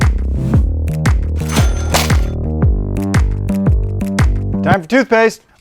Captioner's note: cash register dings